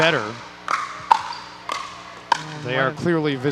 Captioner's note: ball bouncing